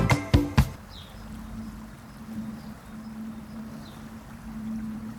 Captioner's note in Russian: Музыкальная перебивка; Звук воды, щебетание птиц